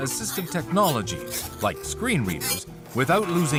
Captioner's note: buzzer